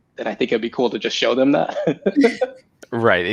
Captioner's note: laughs